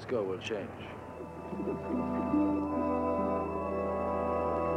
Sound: bubbles burbling; peaceful music

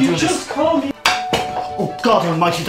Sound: doorbell ringing

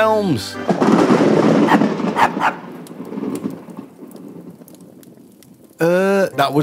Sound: loud thunder clap, dog barks

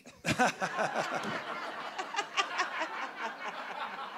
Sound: audience laughing

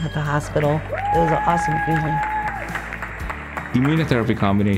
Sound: applause and cheering

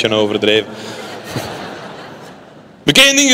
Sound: laughter

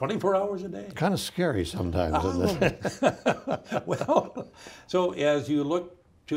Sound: both laughing

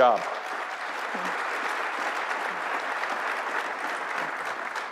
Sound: audience applauding

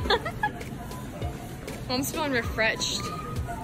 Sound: giggling

